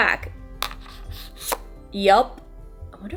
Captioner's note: charger thumps